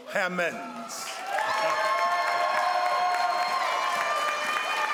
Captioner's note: crowd applauds